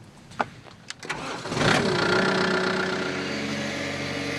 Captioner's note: Motorengeräusch